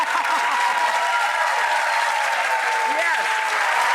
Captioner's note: audience applause